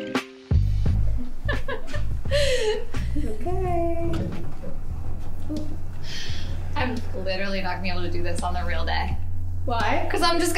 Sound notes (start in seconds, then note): 0.9 laughing